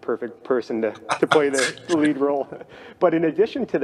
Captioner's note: chuckles